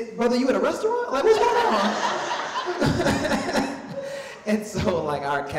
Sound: laughs quickly

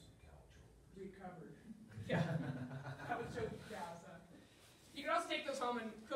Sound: laughter

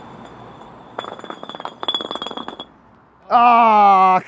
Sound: bricks clunk faster

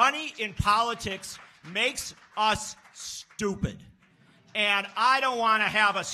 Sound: scattered applause

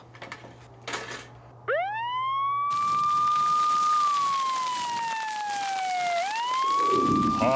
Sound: <i> siren blaring</i>

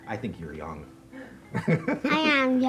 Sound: laughing

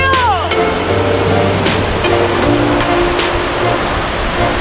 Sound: water splashing

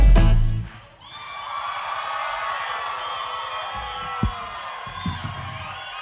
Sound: audience cheering and applauding

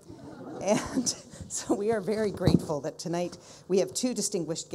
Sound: people laughing; chuckles

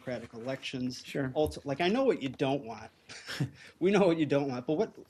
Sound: laughter

